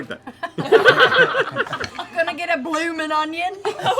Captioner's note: accented